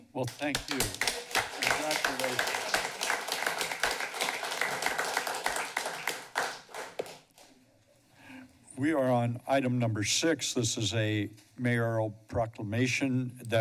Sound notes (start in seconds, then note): 5.2 applause